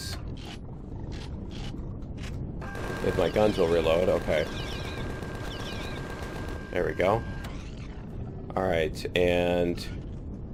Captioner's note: reloading